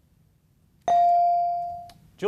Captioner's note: beep